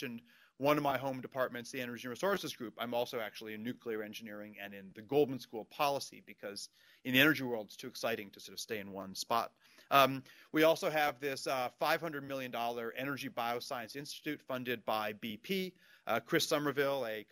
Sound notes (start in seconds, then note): none